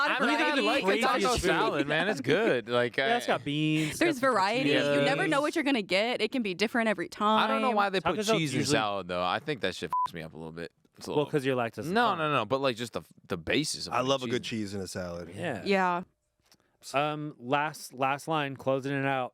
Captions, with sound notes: (group chatter) - There's variety, you never know what you're gonna get. It can be different every time. - I don't know why they put cheese in salad though I think that shit (beep) me up a little bit. It's a little - Well 'cause you like - No, no, no. But like just the, the bases of it. - I love a good cheese in a salad. - Yeah, last line. Closing it out.